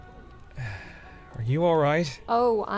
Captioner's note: sighs